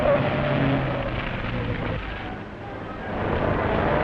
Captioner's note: tires screeching